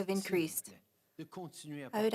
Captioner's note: speaking French